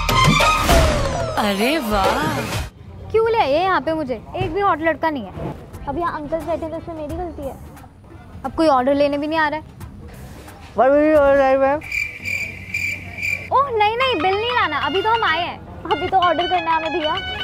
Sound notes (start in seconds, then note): 11.8 birds chirping